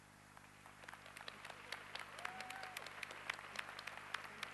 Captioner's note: applause